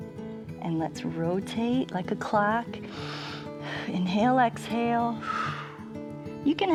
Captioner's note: exhales